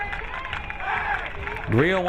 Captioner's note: crowd cheering